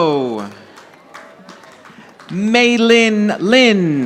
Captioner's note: audience applauding